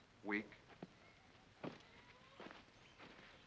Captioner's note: none